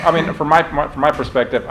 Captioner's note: laughter